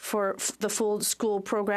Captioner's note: speaking French